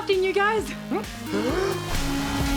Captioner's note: all inhale